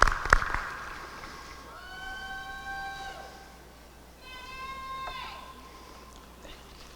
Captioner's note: applause; cheering